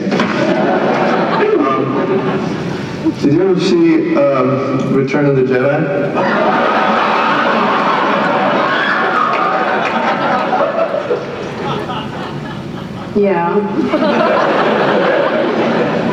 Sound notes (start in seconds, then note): 6.1 laughter